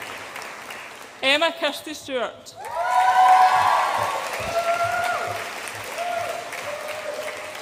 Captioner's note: audience applauds and cheers